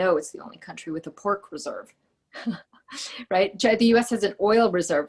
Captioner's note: laughing